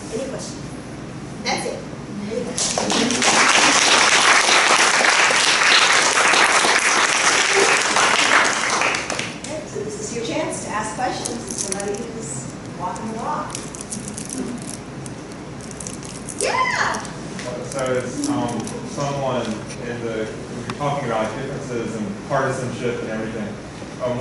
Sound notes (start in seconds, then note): 2.6 audience clapping